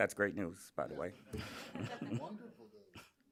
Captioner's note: laughter